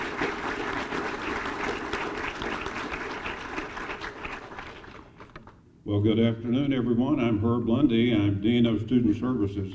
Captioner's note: applause